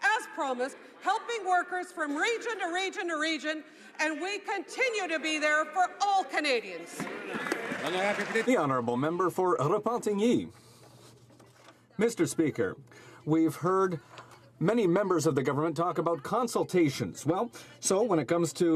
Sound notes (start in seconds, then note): 12.5 speaking French